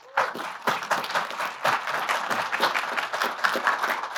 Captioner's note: applause